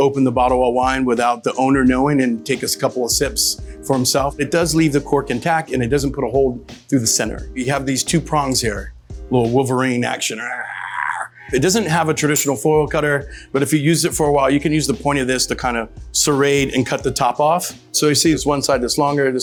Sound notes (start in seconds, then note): 11.0 roars